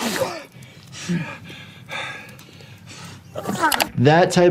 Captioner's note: victim spitting; victim panting